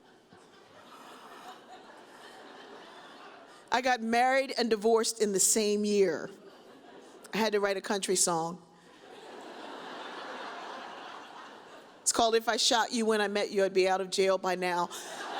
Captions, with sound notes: I got married and divorced in the same year. I had to write a country song. (audience laughs) It's called "If I Shot You When I Met You, "I'd Be Out Of Jail By Now."